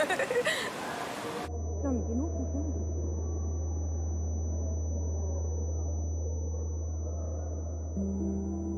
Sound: tinnitus

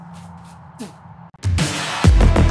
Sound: spits

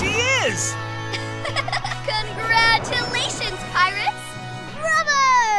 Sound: giggling

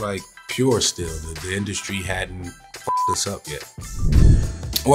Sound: beeps

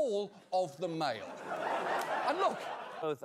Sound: audience laughter

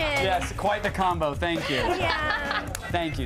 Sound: laughter

